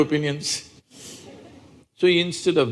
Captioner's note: few laugh